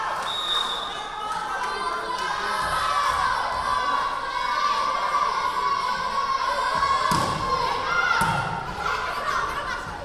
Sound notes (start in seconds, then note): 0.2 whistle blowing; 0.9 chanting; 6.0 yelling